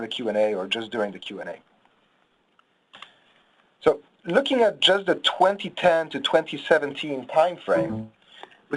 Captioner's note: mouse clicks